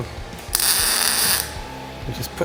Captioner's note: tool whirring